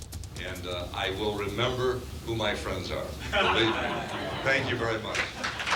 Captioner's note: laughing